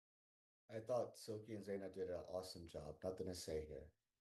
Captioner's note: hablando inglés